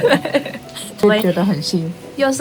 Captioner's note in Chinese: 意味深長的笑